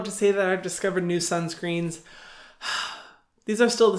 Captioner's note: sighs